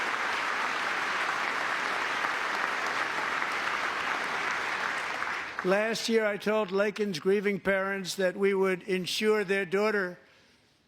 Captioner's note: applause